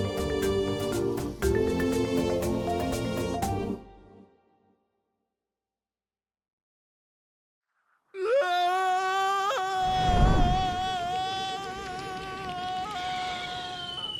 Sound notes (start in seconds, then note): 8.3 yelling